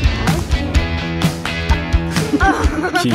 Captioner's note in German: Rockige Musik; Lachen